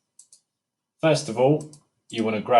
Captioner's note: mouse clicking gently